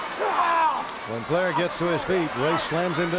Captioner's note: Flair screams